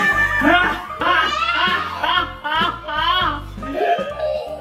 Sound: laughing in slow motion

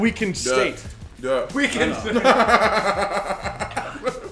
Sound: laugh

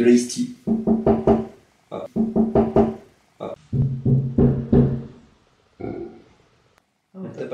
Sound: someone knocks on the door

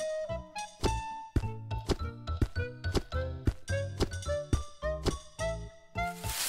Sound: footsteps; bushes rustling

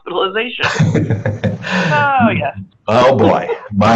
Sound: laughs

